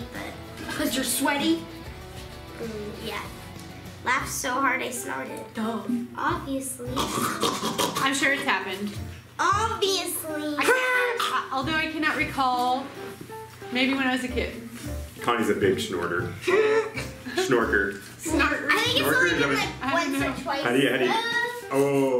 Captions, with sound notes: - 'Cause you're sweaty? - Mm, yeah. Laughed so hard I snarted. - Duh. - Obviously. (snorting) - I'm sure it's happened. - Obviously! (shouting) - Although, I cannot recall. Maybe when I was a kid. - Connie's a big snorter. Snorker. - Snorter. - Snorker? Is that what? - I think it's only good like once or twice. - I don't know.